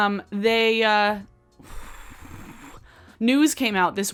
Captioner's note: sighs